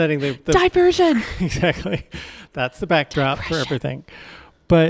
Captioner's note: laughs